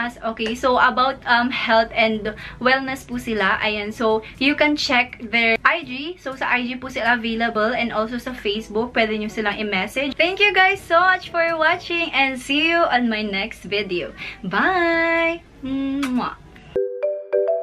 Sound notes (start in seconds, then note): 15.7 kisses; 16.7 outro playing